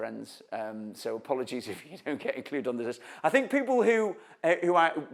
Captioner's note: chuckles